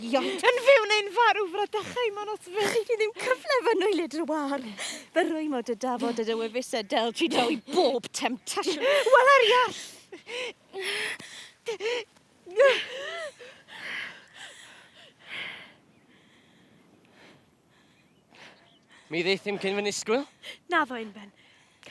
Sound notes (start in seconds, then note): 12.6 rhagnell gasps for breath